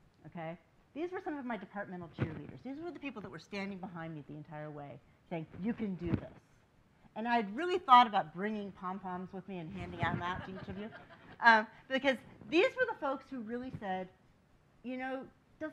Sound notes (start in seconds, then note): 10.2 laughing